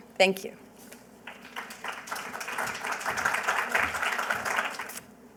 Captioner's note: applause